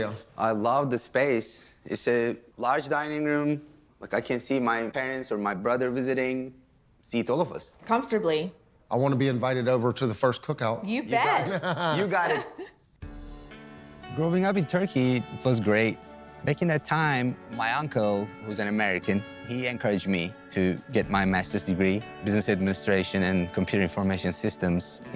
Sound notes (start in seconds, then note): 11.2 laughing